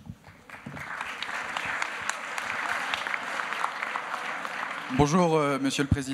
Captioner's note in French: Applaudissements